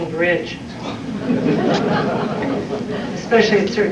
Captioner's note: laughter